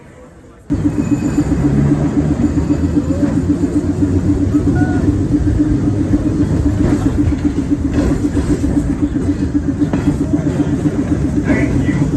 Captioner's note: tram moving